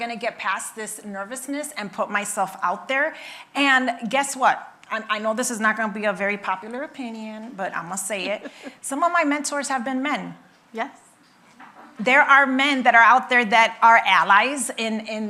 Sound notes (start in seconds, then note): 8.2 laughing